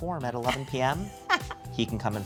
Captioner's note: laughs